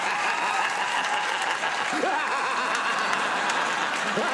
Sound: crowd cheering; Conan laughing

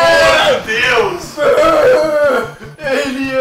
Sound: cries in pain

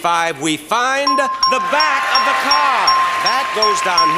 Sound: bell rings continuously

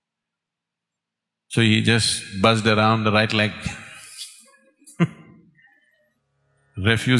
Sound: laughs

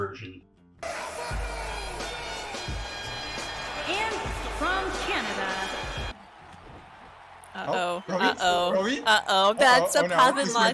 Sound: overlapping voices of my friends in shock and awe as win epicly

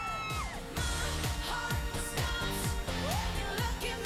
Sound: excited squealing

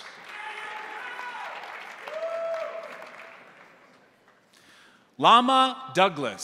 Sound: crowd cheering; crowd applauding

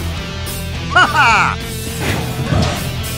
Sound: Yuan Shao's DW4 laugh

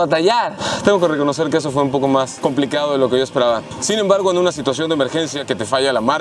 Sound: sighs

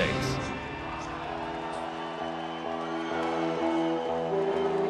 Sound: cheers and applause; gloomy music

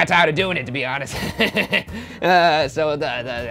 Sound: laughing

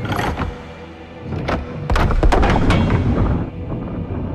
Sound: mechanism moving

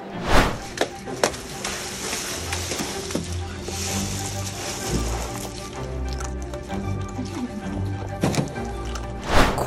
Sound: background music; whooshing sound effect; background chatter; sound of ice cubes shifting; whooshing sound effect

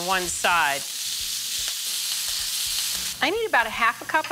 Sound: sizzling

